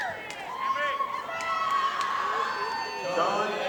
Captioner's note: audience applauding; audience screaming